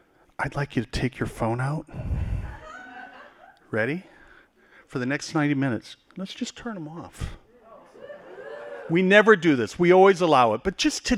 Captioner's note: laughing